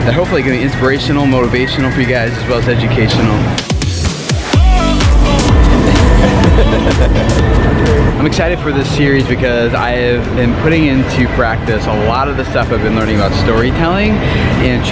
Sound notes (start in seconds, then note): 3.2 lively music; 5.6 laughs